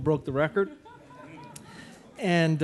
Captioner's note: audience laughing